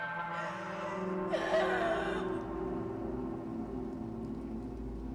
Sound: dark eerie music; woman sobbing

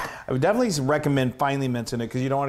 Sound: none

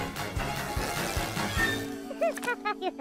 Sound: blows raspberry

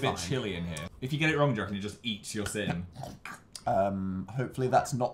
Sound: gnawing noises

